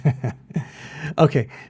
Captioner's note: laughs